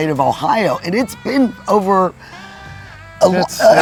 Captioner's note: laughing